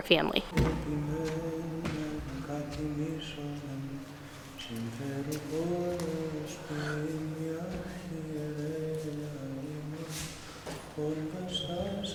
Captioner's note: chanting in Greek